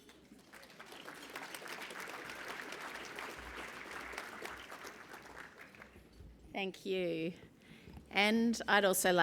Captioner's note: applause